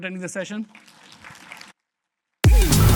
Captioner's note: applause